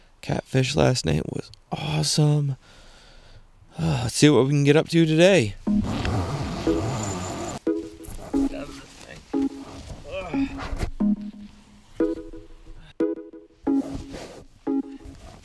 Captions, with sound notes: Catfish last night was awesome. Let's see what we can get up to today. (upbeat music) (man groans)